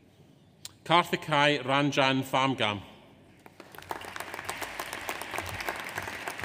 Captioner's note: audience applauds